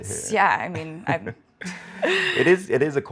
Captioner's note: both laugh